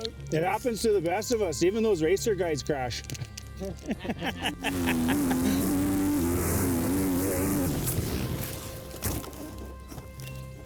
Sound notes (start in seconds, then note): 4.6 bike engine roaring